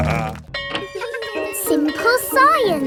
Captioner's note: snorting; bell tolling; children laughing